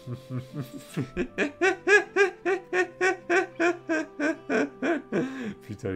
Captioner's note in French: Rires